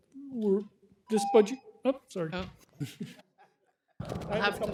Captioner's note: timer tone